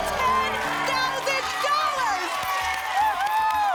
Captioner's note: applause and cheering